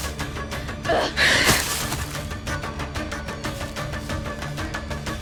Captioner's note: slow dramatic music continues; Sasha groans